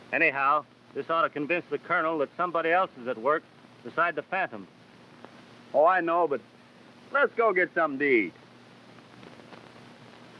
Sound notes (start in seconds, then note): none